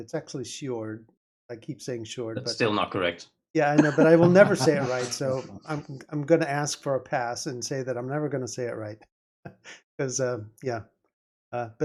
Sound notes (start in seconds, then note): 3.6 laughing